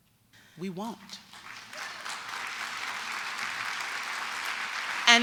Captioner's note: applause